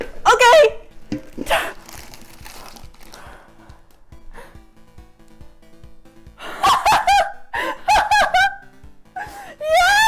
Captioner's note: maniacal laughter